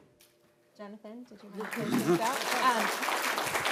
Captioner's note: laughter